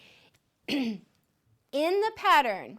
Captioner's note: clears throat